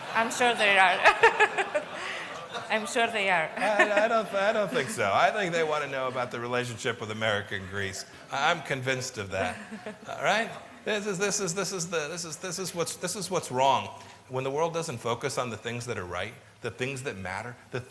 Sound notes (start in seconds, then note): 0.9 laughter